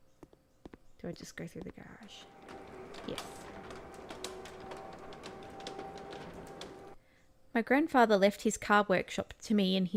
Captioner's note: reading text out loud